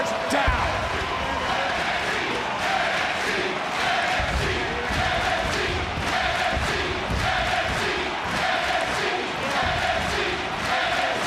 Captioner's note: crowd chants "NXT"